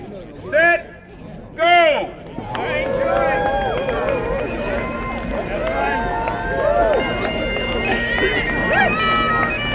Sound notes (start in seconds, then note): 2.2 cheers